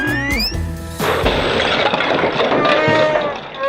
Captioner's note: crash